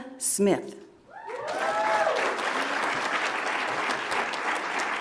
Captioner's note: audience applauds